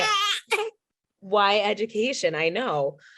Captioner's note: baby cries